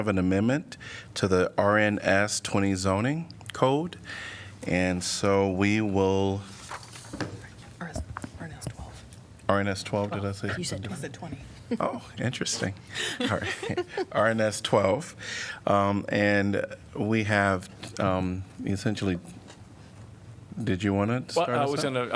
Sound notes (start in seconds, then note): 13.0 laughter